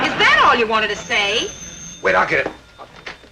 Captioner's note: audience chuckling; telephone ringing